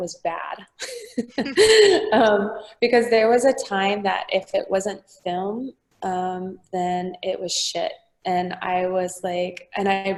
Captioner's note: laughing